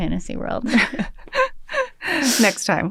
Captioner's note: laughter